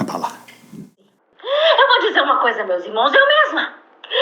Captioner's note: voice on cell phone video